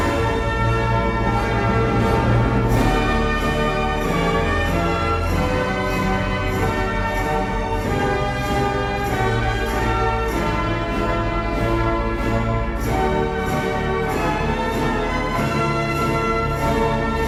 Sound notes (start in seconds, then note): none